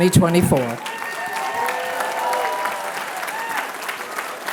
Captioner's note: applause